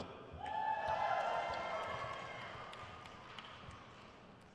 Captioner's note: crowd cheers